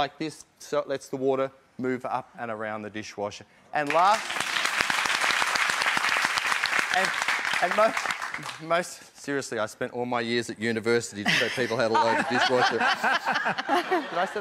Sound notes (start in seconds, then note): 3.8 applause; 14.2 laughter